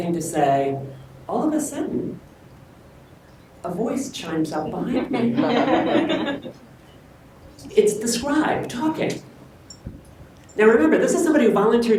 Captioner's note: laughter